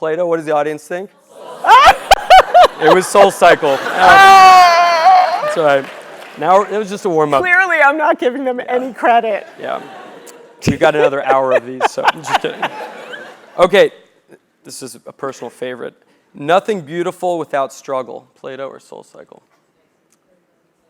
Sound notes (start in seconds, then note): 3.6 laugh; 10.6 laugh